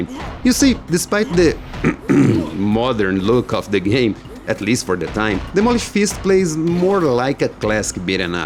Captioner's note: ahem